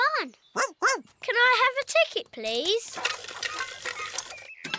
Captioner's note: barks